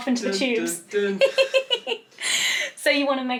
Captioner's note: laughing